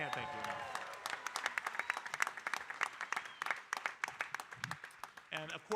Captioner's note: audience applauding